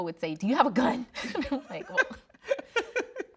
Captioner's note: both laughing